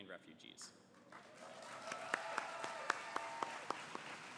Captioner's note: applause